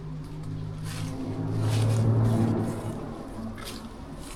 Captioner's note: loud vehicle sound